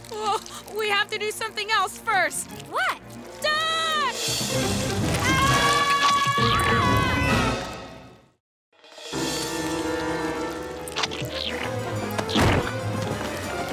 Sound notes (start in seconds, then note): 11.2 slurp; 12.5 boom